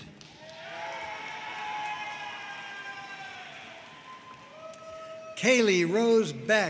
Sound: audience cheering and applauding

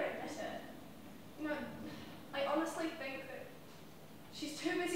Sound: sigh

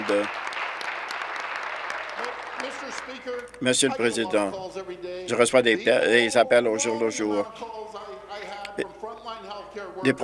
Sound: applause

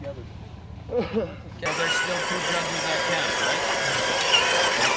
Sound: truck motor whining

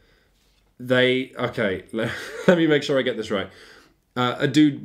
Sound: laughs

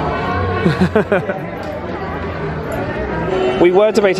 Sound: laughs

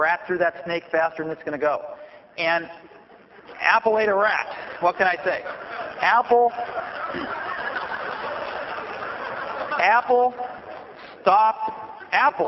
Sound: laughter

